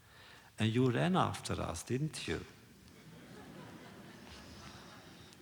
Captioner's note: laughter